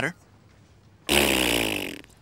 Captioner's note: blowing raspberry